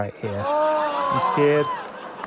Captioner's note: cheers